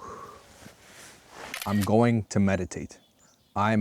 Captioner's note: exhales